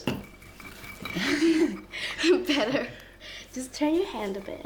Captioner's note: chuckles